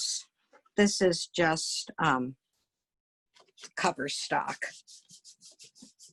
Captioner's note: paper rubbing